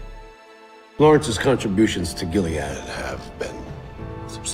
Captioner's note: voiceover